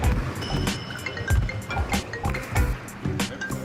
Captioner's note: cell phone ringing